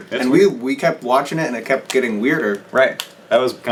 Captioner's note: none